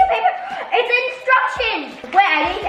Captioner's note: gasps